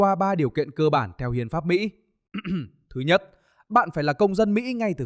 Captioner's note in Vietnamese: hắng giọng